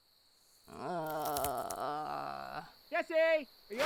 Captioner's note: groans